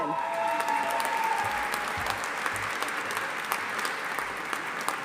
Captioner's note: audience applauding